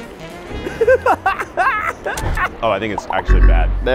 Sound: laughing

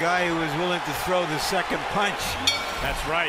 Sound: bell dings

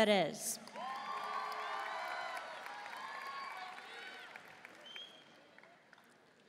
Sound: audience cheering and applauding

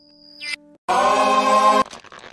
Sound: scream

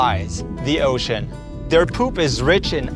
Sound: underwater sounds

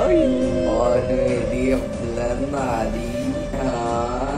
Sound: haunting echoes

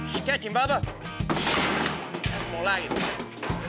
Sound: clanging sound

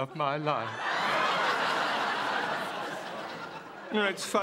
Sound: laughter

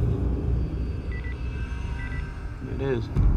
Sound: beeping

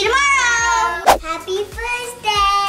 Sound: whoosh

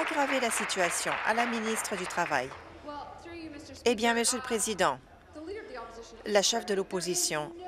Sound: applause

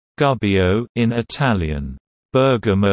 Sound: in Italian

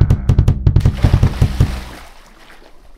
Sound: splash

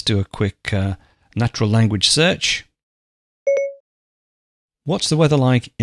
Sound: Siri beeps

